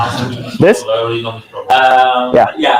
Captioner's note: audience murmurs